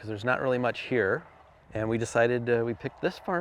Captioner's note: vehicle rumbling